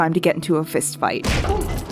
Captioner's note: punching sound